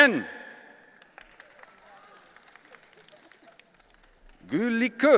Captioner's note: audience applauding